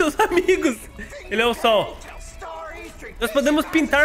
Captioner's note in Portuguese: risos